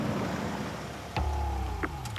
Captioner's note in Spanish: Ruido del motor